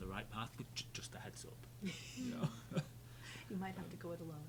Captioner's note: chuckles